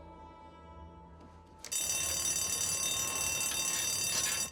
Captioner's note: bell rings